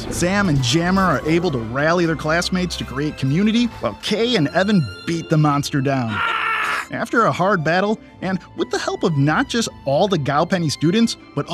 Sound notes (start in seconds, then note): 6.5 yelling